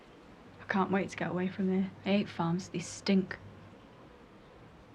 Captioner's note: none